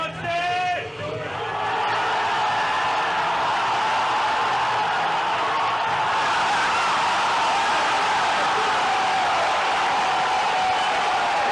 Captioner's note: crowd; crowd cheering